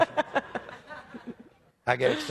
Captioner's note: audience laughs